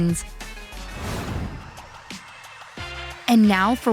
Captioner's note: upbeat music; air whooshes